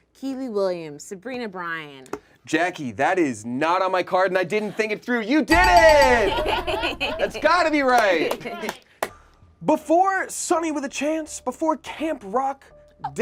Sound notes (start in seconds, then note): 5.5 bell ringing; 5.5 group laughs